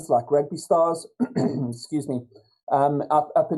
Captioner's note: clears throat